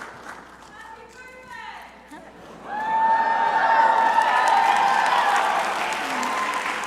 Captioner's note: crowd cheering